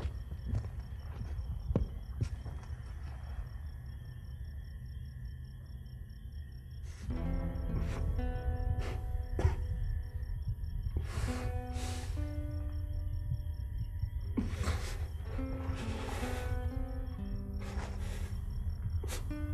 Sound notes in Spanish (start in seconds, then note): 7.4 sollozar